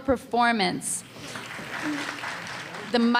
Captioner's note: applause